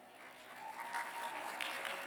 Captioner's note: applause